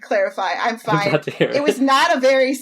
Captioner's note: laughing